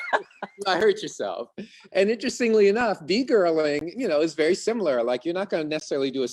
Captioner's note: laughing